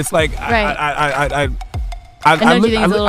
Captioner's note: Charlamagne stuttering